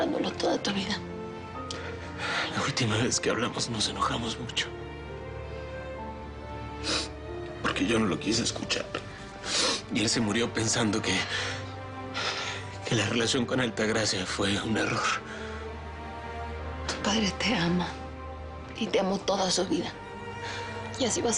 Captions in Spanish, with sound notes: HONRANDOLO TODA TU VIDA. - LA ULTIMA VEZ QUE HABLAMOS, NOS ENOJAMOS MUCHO. [Solloza] PORQUE YO NO LO QUISE ESCUCHAR. Y EL SE MURIO PENSANDO QUE... QUE LA RELACION CON ALTAGRACIA FUE UN ERROR. - TU PADRE TE AMA Y TE AMO TODA SU VIDA,